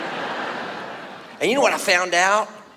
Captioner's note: audience laughs